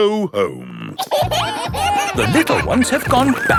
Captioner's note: kids giggling